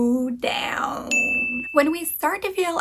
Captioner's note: bell dings